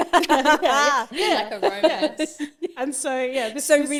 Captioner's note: laughs